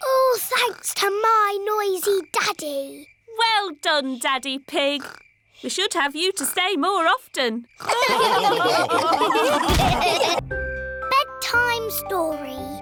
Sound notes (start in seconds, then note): 7.8 all laughing